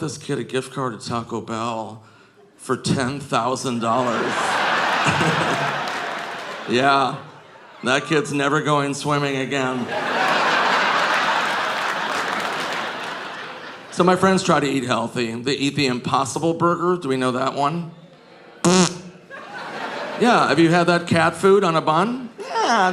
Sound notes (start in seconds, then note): 3.6 audience laughing; 4.8 Nick chuckles; 9.6 audience laughing; 9.8 audience applauding